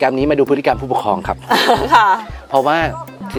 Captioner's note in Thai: หัวเราะ